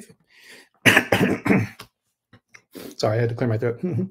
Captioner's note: throat clearing